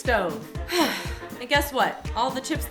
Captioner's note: sighs